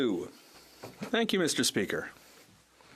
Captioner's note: speaking French